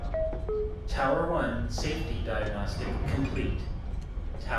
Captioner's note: computer voice